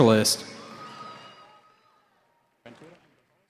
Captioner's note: cheering